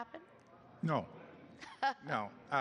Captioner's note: laughter